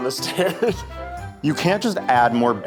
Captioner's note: chuckles